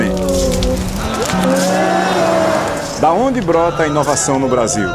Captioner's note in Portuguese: Crepitação